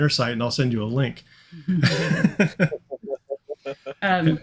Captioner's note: chuckling